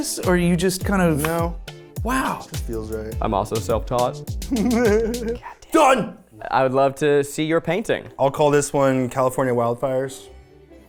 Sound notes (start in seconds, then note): 4.4 laughing